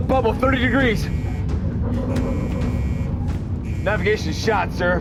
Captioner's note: alarm